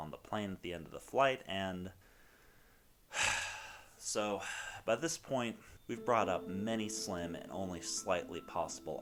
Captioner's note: sigh